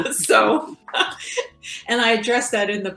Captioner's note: laughing